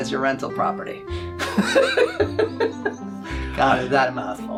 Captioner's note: laughing